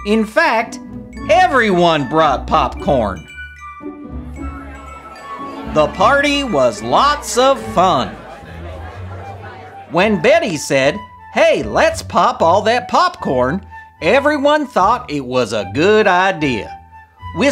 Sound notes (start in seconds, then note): 4.2 crowd chatter